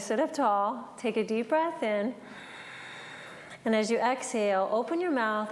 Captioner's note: breathes